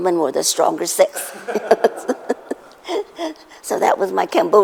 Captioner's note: laughter